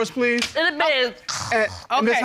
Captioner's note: imitates snoring